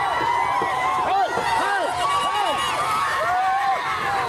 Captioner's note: all cheering shouting